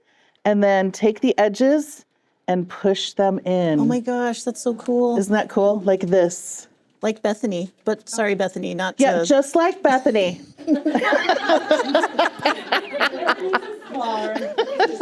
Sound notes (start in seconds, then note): 10.6 laughter